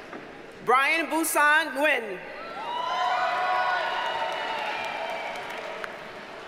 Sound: audience cheers and applauds

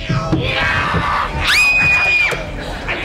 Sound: screaming

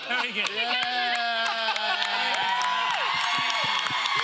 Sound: laughing; audience cheering

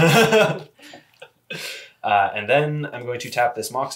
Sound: laughs

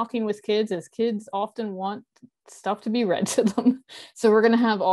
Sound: chuckles

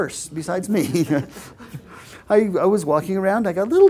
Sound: laugh

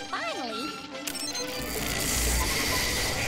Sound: whirring; alarm blaring

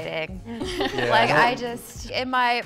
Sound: all laugh

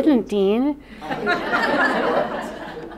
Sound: laughter

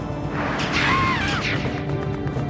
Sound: Mario screams

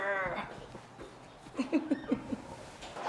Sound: chuckles

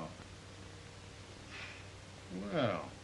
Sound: sigh

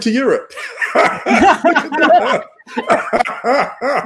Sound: all laughing

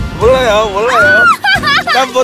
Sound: screaming

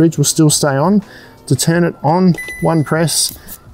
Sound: control panel dings

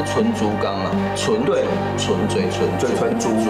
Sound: in Mandarin

